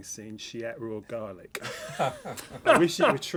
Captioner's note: laughter